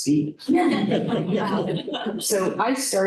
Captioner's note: laughter